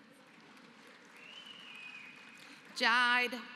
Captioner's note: applause